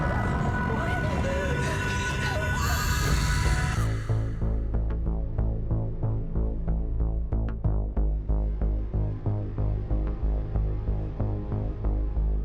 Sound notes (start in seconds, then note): 0.0 dramatic music; 0.3 Maya whimpers; 2.8 Maya shrieks; 2.8 brooding music